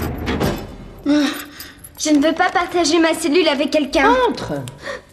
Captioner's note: woman moans